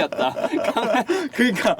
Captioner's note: laughter